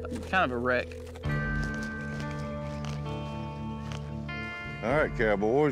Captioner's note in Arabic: حزين